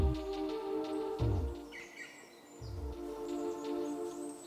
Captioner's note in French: bruit d'oiseaux